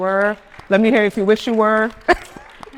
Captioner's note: attendees applauding